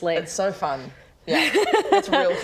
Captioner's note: unconvinced laugh